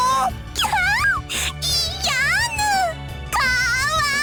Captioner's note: squee